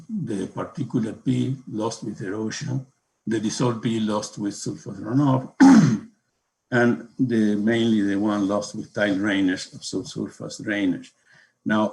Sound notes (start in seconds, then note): 5.3 coughs